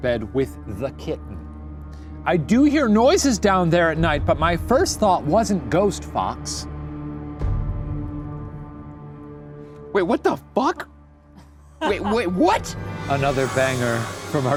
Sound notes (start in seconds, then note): 11.8 laughing